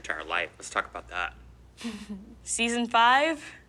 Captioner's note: laughs